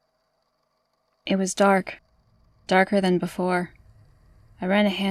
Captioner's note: low drone sounds fade in